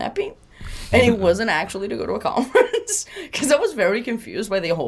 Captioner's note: laughs